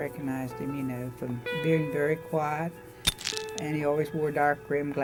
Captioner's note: camera clicking